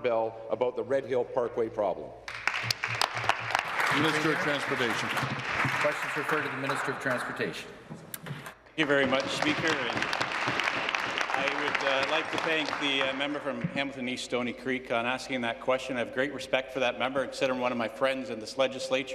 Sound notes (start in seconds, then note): 6.7 applause; 13.8 applause